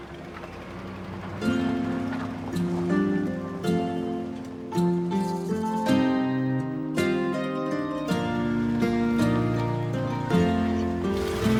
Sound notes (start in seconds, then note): 0.0 engine rumbling; 1.2 gentle upbeat music